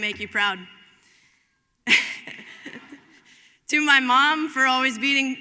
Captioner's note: laugh